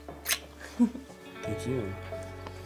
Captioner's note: Keely chuckles